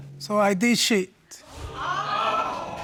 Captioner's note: audience exclaims